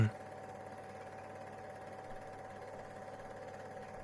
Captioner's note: film reel whirring